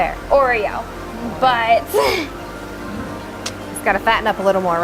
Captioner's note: laughing